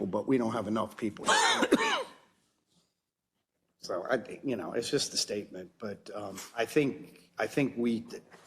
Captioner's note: cough